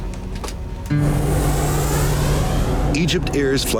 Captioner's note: plane engine roaring